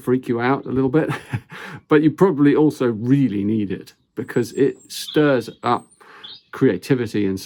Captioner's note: chuckles